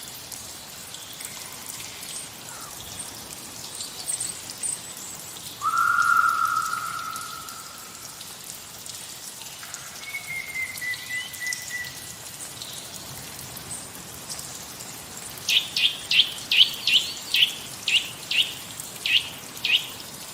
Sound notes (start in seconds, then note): 5.6 bird call or banshee ..?; 10.0 whistling; 15.5 bird call..?